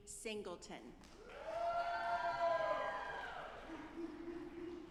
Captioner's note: audience applauding